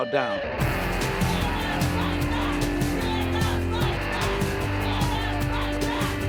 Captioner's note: rock music; protesters chant